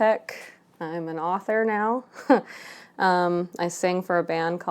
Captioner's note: chuckles